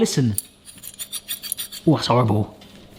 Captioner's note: metal sliding